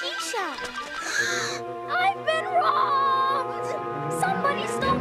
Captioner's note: gasps